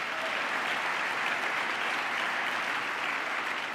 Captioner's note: applause